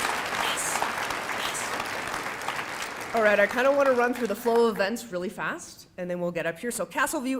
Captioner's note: applause